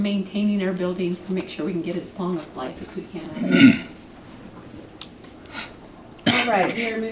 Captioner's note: clears throat